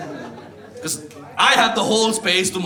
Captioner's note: audience laughs